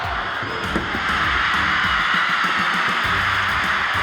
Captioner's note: crowd cheering